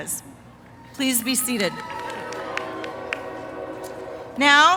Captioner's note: applause, train whistles